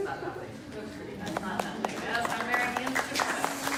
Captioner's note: applause